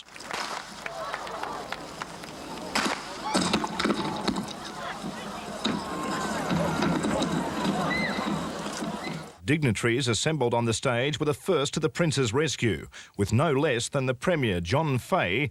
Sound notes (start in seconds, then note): 0.1 gun fires; 1.8 clattering; 2.9 people shouting